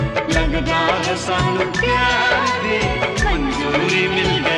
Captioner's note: none